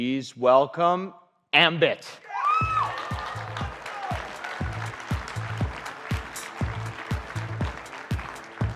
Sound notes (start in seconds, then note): 2.4 audience applauding; 4.4 upbeat music